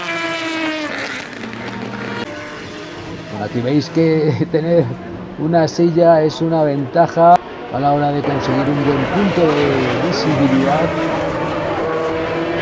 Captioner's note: motors